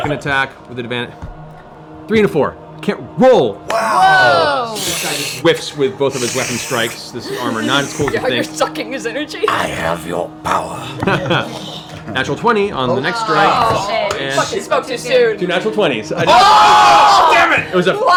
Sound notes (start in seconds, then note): 3.7 sucking sounds; 9.8 raspy